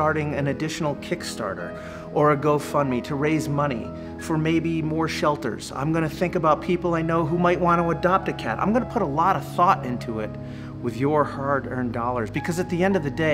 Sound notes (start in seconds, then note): none